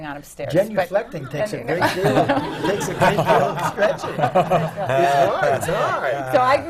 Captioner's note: laughter